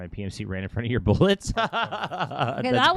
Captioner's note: laughs